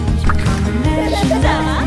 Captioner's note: giggles